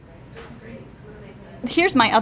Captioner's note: chatter in the background